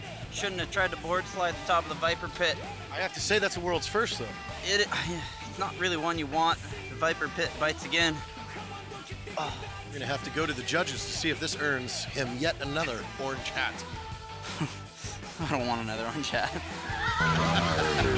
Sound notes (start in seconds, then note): 4.9 grunts; 9.0 moans; 16.0 chuckles; 17.6 energizing rock music